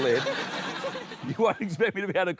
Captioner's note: laughter